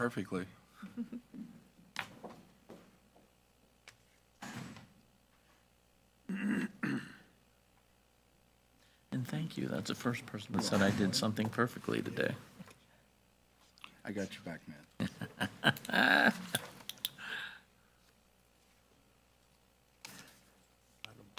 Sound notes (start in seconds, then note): 18.5 laughs